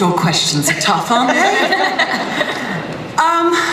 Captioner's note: laughter